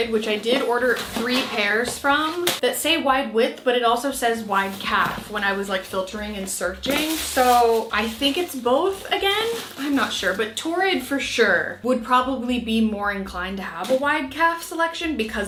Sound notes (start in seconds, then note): none